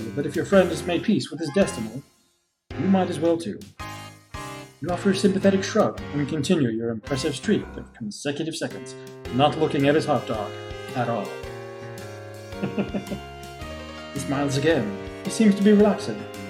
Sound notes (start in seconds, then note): 12.5 chuckles